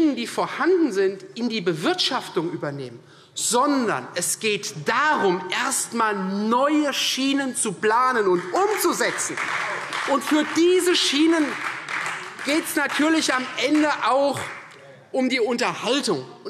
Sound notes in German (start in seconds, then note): 8.0 Beifall Freie Demokraten